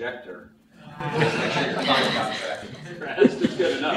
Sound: laughter

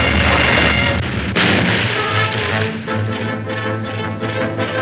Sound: boom; dramatic music

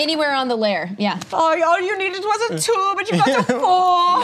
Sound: imitates German accent

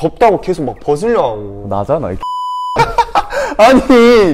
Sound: laughter

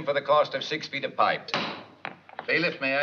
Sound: thunk

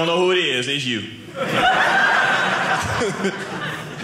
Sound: audience laughing

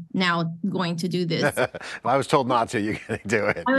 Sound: laughs

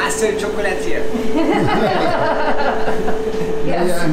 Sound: laughing

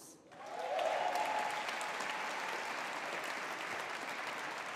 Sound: audience applauding

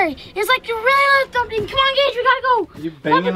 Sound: mimicking thumping

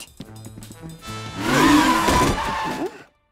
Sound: tires screeching

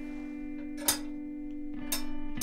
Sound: potty handle jiggle

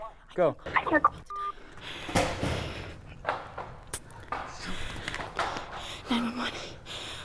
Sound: dial tone

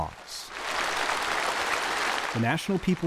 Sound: applause

